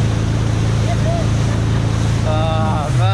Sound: cheering

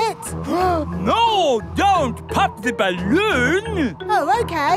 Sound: gasps

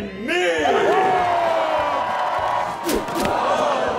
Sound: cheering

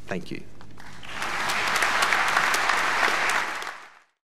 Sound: clapping

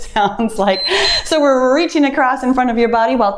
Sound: timer beeps

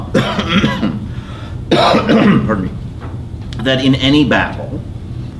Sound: coughs

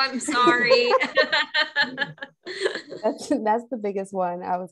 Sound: laughing

